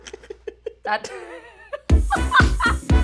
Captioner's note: laughter; upbeat music; laughter